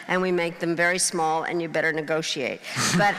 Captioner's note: crowd laughing